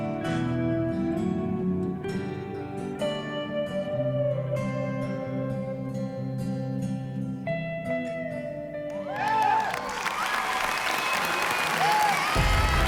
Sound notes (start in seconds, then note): 8.9 cheering and applause